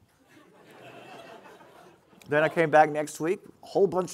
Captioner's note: audience laughing